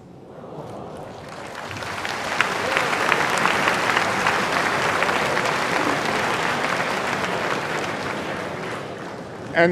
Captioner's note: applause and cheers